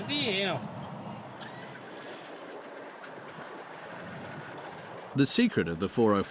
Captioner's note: speaking in foreign; cars throttling